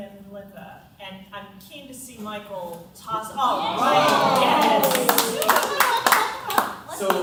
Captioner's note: applause